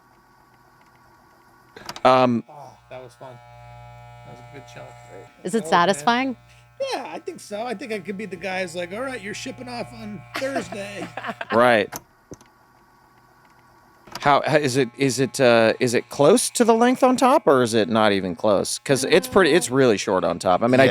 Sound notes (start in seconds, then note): 0.2 camera buzzing; 10.3 laughing; 13.3 camera buzzing